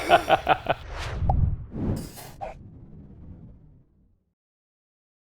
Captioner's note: swooshing; balloon popping